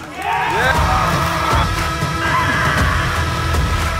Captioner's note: people screaming; excited music